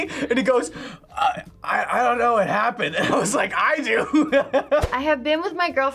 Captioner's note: laughs